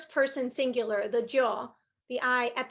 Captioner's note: speaking Spanish